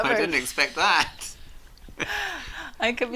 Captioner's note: chuckling